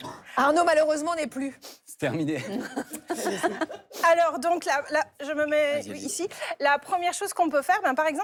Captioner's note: laughter